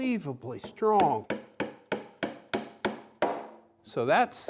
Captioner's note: hammer hitting